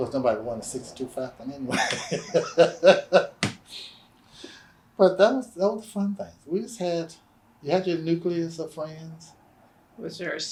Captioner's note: laughs